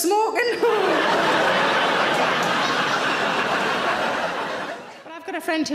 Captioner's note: audience laughing